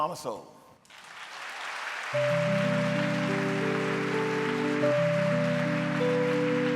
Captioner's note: audience cheering; gentle music